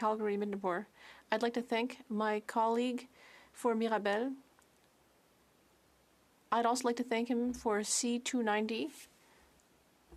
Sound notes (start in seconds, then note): 1.7 speaking French